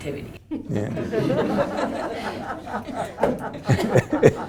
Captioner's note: group laughing